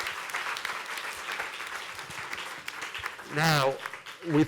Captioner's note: applause